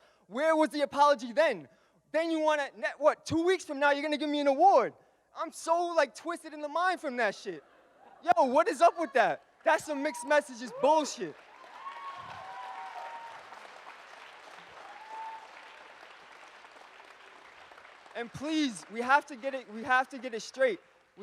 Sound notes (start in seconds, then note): 11.6 audience cheers and applauds